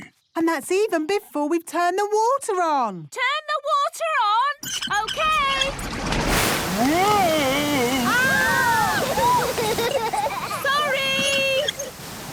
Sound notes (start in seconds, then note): 4.6 wheel squeaking; 6.8 children laughing